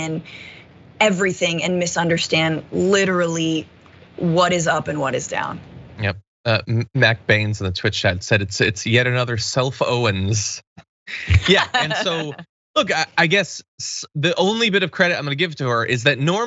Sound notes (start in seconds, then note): 11.1 laugh